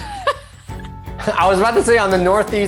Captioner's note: laughing